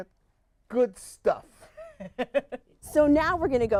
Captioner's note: laughs